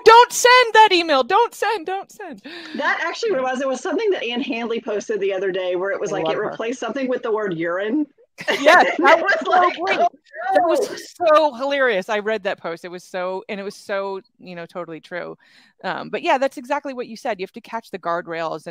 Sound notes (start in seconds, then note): 8.4 laughs